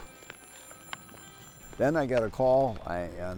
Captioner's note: phone ringing